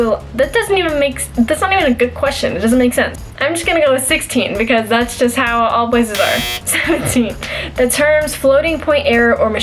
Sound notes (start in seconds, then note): 6.1 buzzer